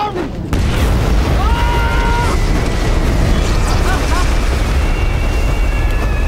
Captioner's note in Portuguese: explosão